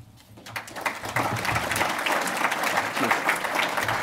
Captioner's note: applauding